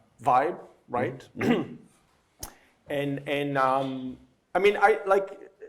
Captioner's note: clears throat